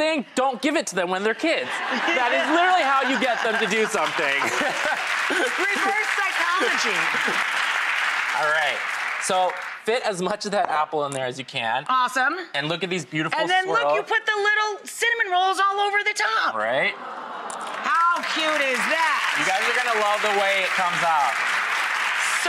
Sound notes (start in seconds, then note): 1.6 laughter; 4.5 applause; 17.6 applause